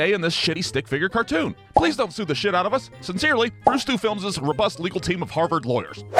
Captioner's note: none